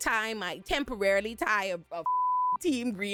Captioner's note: beep